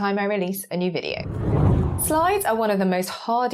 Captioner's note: graphic whooshes